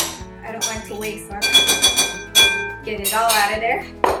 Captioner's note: spoon banging